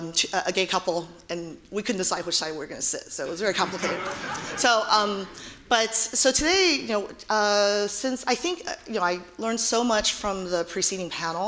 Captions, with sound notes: A gay couple, and we couldn't decide which side we're gonna sit. So it was very complicated. (audience laughing) So, today I learned so much from the preceding panel,